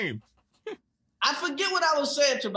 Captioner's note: desus giggles